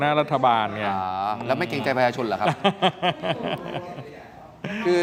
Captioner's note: laughs